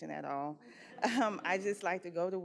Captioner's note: audience chuckles